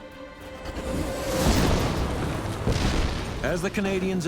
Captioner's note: shells firing